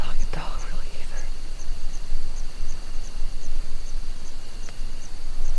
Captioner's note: crickets chirping